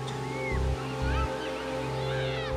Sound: seagulls

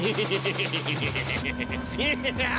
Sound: laughs

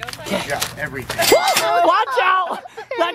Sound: cashier register opening sound effect

